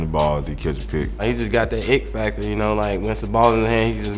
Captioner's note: voiceover